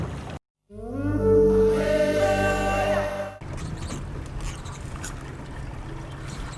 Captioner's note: blowing horn